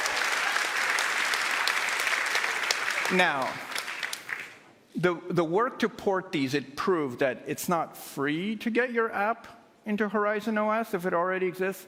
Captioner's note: cheers and applause